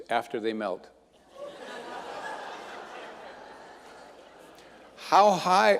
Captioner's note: audience laughing